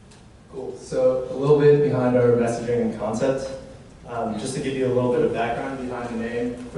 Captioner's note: none